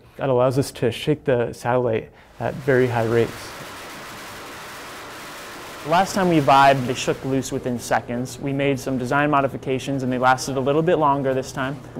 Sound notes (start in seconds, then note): 2.3 sounds of shaking